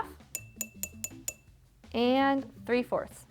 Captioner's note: jar tinking